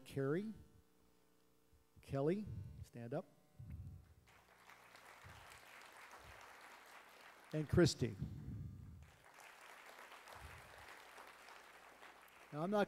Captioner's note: applause